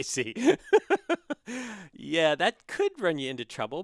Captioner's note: laugh